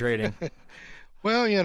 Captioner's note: laughing